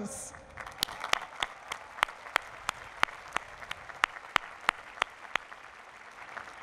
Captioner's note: applause